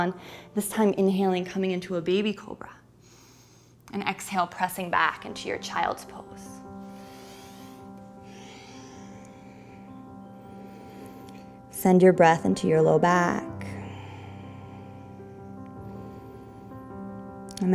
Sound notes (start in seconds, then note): 6.7 deep breathing; 14.7 peaceful music